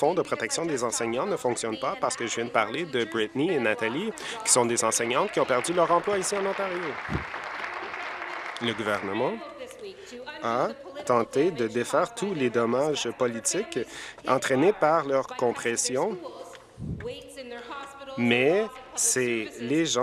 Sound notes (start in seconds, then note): 10.6 applause